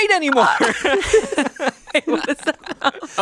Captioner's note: everyone chuckles